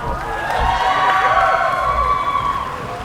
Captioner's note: cheering